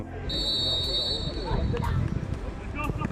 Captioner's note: referee whistle